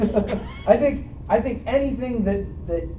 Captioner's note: laughter